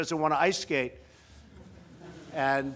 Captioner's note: laughter